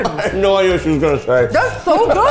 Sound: laughing

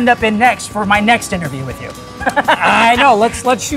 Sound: laughing

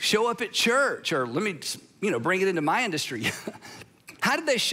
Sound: chuckles

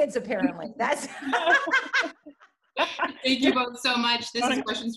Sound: laughter

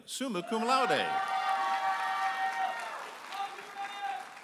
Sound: audience applauding and cheering

